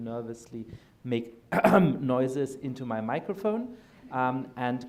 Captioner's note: clears throat